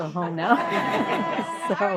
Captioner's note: laughter